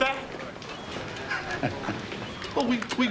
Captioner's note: laughs